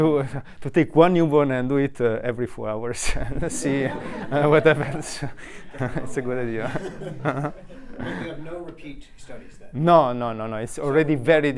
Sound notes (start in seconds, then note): 3.0 group laughs